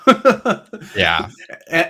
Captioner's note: laughs